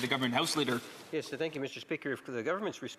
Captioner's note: speaking French